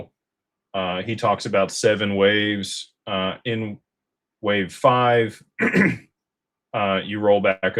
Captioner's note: clears throat